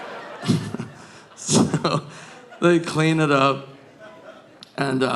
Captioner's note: chuckles